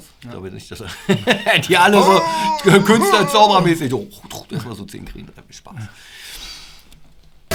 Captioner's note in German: lachen